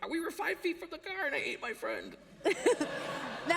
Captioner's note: laughter